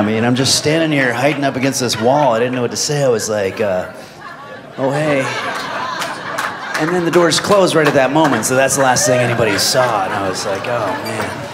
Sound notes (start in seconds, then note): 5.2 audience laughs